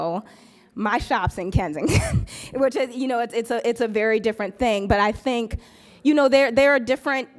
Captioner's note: laughs